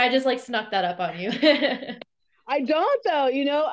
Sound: laughs

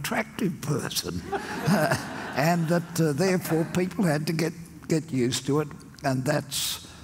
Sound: audience laughs

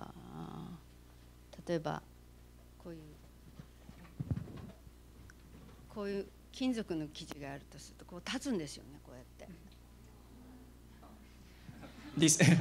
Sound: non-english speech

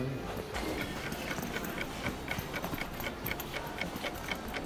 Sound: timer

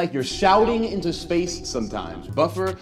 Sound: echoing

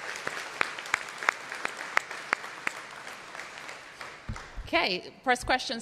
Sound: applause

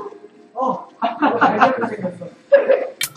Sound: laughs

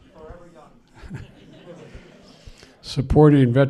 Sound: laughs

